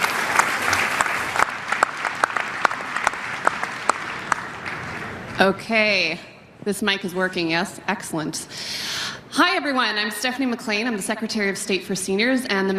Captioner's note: applause